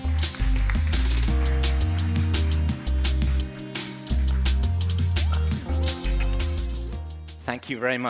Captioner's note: applause